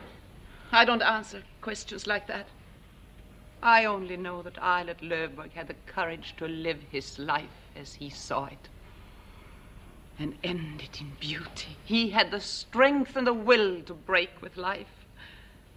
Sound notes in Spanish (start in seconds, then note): none